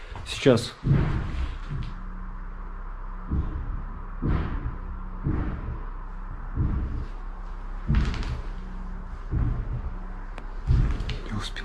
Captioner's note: thumps are heard from above